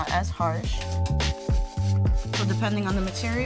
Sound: brush scrubbing

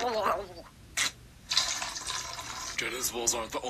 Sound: barf leaking

